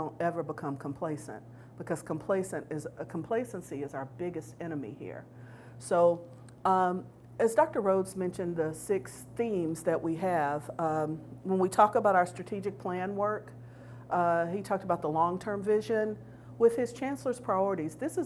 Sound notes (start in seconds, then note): none